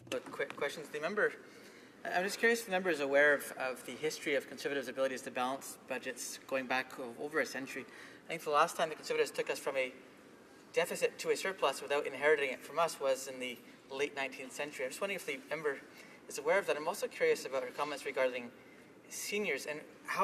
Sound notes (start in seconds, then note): 3.3 speaking French